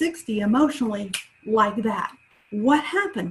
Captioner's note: snaps fingers